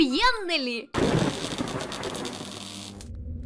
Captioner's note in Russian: Звук молнии